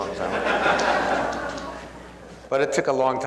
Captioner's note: laughs